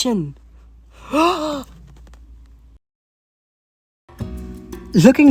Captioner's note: gasp